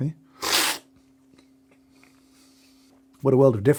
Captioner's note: slurping